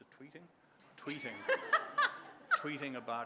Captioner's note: laughter